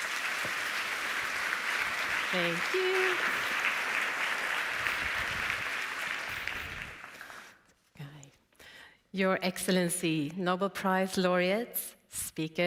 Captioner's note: applause